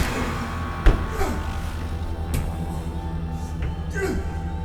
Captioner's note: fist punching